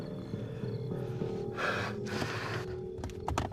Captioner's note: heavy breathing